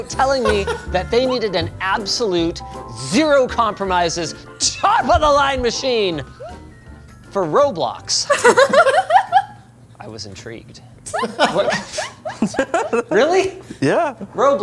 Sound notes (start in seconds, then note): 8.2 laugh; 11.1 laughs